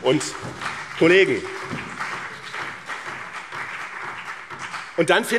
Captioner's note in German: Beifall BÜNDNIS 90/DIE GRÜNEN, SPD und DIE LINKE